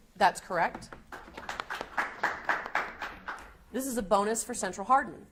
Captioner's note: audience applauds